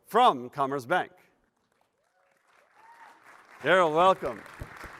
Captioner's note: applause